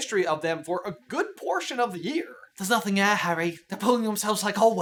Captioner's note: Hermione voice